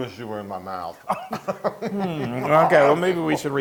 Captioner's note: laugh